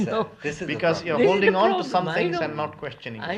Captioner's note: laughs